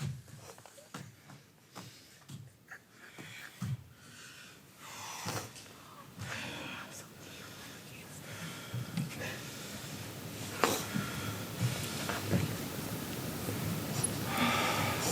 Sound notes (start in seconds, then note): 1.6 hand and foot taps